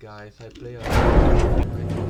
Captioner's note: extremely loud elevator noise drowns out talking noise